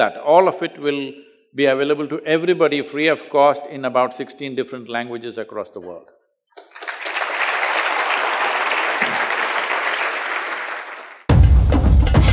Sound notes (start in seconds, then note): 10.2 applause